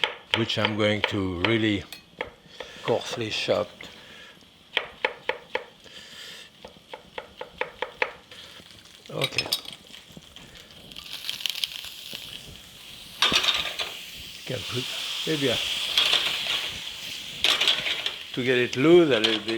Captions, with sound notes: Which I'm going to really coarsely chop. (knife chopping) Okay. (pan rattling) Gotta put maybe a, to get it loose a little bit,